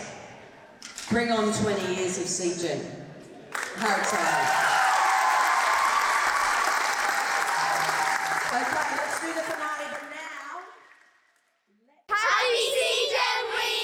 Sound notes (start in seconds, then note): 3.5 applause, cheers